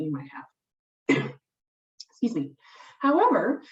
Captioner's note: coughs